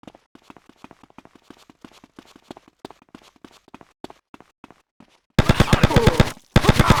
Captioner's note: gun firing